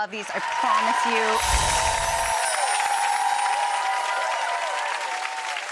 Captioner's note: audience clapping